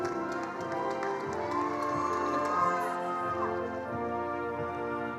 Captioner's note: attendees applauding